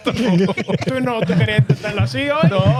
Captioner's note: speaking In Foreign Language